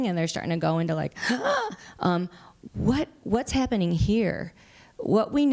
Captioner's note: gasps